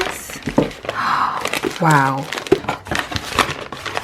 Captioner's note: gasp